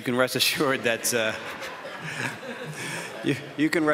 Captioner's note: some audience members chuckle; chuckles